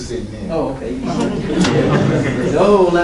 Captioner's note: laughing